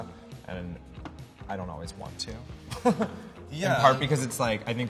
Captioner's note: laughs